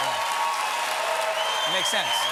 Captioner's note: cheers and applause